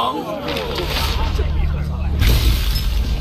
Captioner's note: thunder